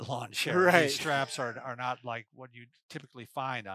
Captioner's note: laughs